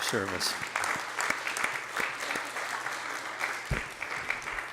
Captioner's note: applauding